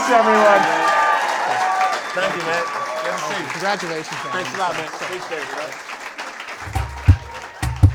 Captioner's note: cheering